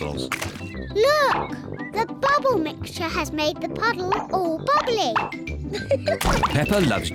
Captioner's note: laughs